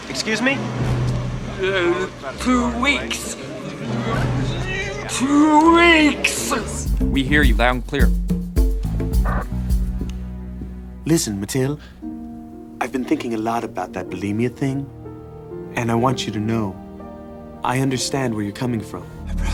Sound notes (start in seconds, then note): 6.8 in hansel's voice; 11.0 in derek's voice